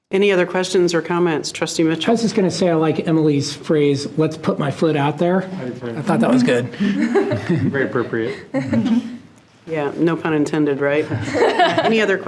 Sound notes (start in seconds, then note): 6.2 laughs; 11.1 laughing